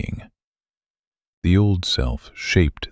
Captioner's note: short pause